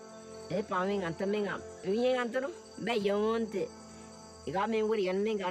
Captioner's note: speaking in foreign language